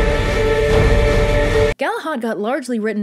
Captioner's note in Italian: baccano epico